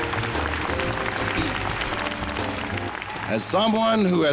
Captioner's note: audience applauding